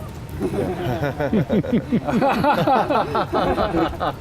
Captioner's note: laughing